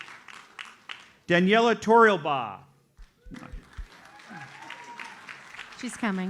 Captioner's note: audience applauds; audience applauds